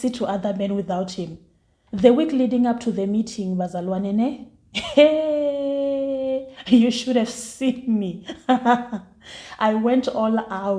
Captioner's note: laughs